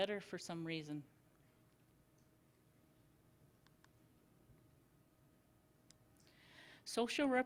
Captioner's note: silence